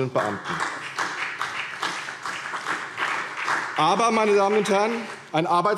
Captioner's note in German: Beifall CDU und BÜNDNIS 90/DIE GRÜNEN